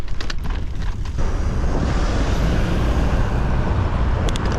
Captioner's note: Traffic